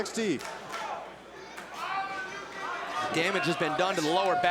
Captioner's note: crowd chatter